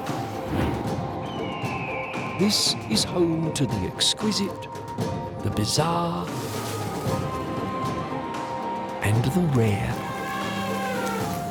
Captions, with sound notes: [birds squawk] This is home to the exquisite, the bizarre... -and the rare. -[elephant trumpets]